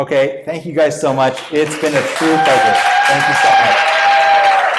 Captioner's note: cheering and applause